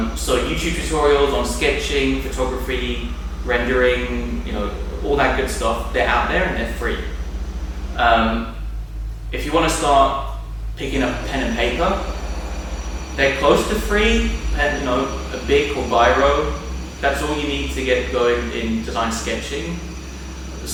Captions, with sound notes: So you choose tutorials on sketching, photography, rendering, ya know, all that good stuff. They're out there, and they're free. If you wanna start picking up pen and paper, they're close to free, (murmurs). That's all you need to get going in design sketching.